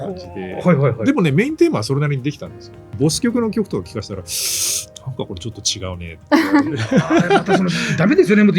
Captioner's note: laughs